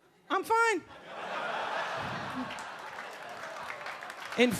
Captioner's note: audience laughing